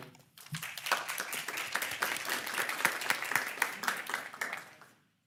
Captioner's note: people applauding